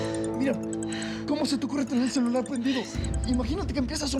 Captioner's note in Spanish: suena el celular